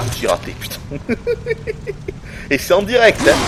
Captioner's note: giggles